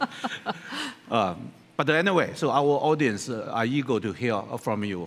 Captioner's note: laughter